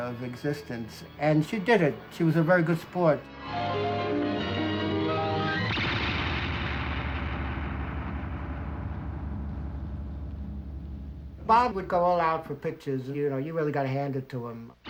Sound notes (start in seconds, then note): 3.1 lively piano music; 5.5 zapping